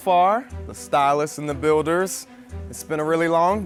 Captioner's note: none